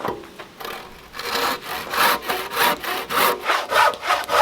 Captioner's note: sawing